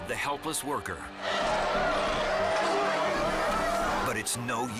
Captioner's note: elephant roars